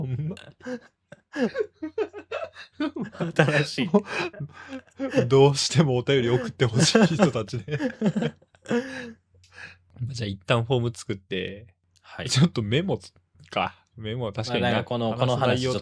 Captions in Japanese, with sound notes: ほんま 新しい どうしてもお便り送って欲しい人たちでま、じゃ一旦ホーム作って [笑い] [息をのむ音] はい。 ちょっとメモかメモ確かになっとおもろかったなとかな。この気持ちなったなみたいなんとかさ。